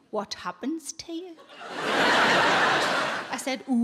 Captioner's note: audience laughing